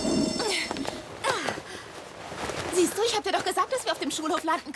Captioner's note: glass breaking